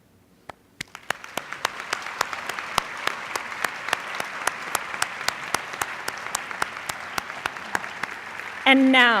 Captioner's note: applause